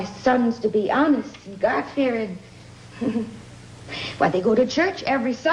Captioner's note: chuckling